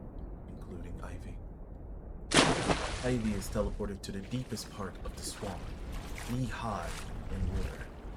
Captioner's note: water splash